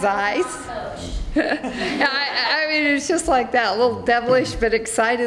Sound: laughs

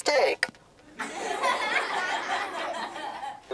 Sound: laughter

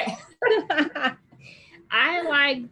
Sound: both laugh

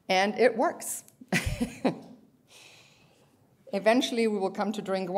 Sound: laughter

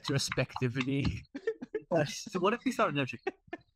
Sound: laughing

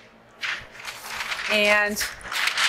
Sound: paper rustling

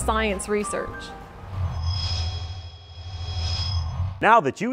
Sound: sound Effects

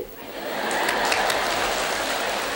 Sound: laughter and applause; clapping several times; giggles

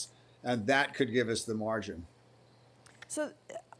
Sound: none

